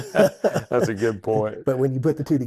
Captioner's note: doctors laugh